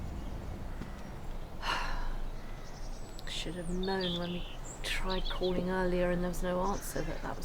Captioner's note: sighs